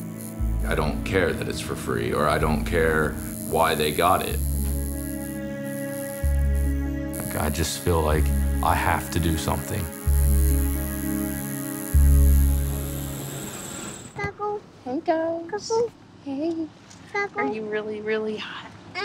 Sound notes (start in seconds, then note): 14.2 baby babbles